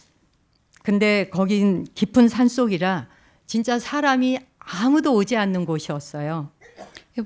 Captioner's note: speaking in Korean